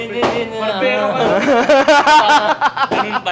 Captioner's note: laughter